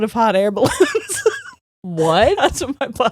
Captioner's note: laughing